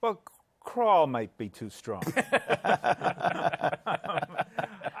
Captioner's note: laughter